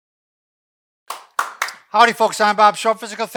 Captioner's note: claps